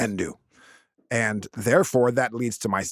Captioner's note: laughing